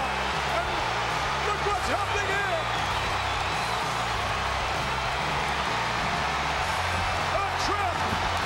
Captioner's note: applause